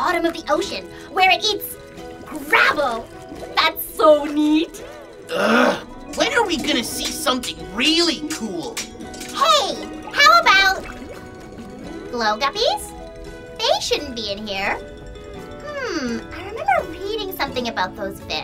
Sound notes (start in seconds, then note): none